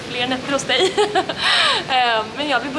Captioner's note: laughing jokingly